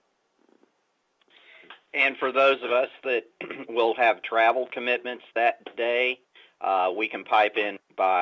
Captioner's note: clears throat